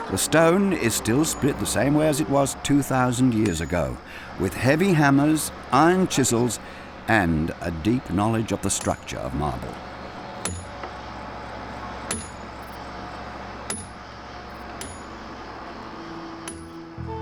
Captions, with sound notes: The stone is still split the same way as it was 2,000 years ago, with heavy hammers, iron chisels, and a deep knowledge of the structure of marble. (hammer clanking)